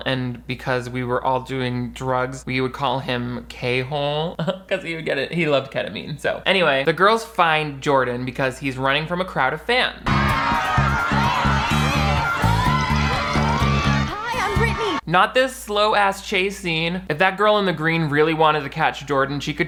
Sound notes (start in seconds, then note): 10.1 girls yelling